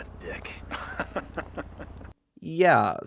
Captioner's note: laughs